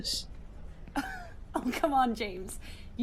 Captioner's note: Marlene laughs